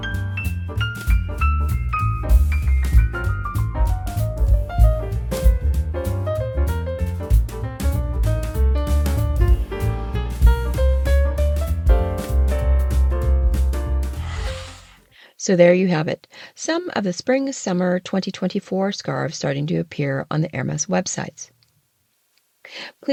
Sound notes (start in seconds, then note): 6.5 sound effect